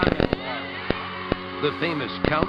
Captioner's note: cheering